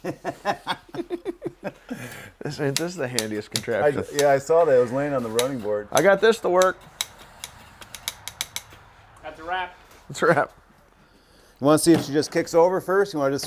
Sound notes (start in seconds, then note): 0.0 guys laugh; 8.0 tool clicks